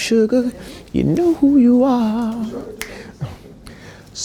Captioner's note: snaps fingers